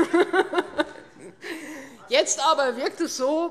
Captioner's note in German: Heiterkeit